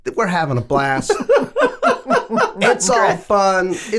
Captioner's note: all laughing